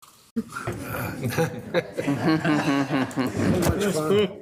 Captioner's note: group laughing